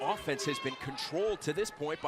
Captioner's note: crowd chatter